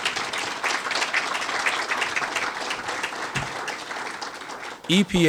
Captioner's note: applause